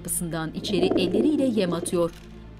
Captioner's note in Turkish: Güvercin sesi